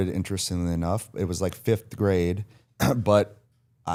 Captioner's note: clears throat